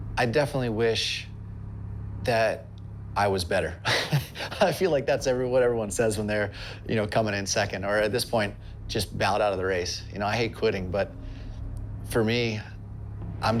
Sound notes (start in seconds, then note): 3.8 laughs